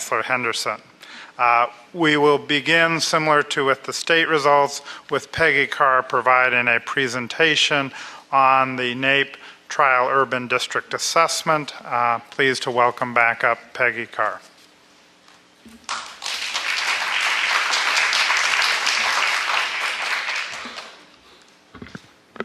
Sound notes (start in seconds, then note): 15.8 applause